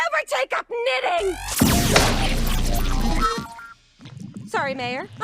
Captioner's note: laser zaps